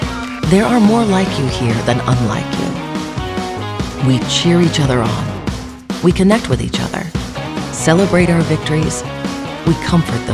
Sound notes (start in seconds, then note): none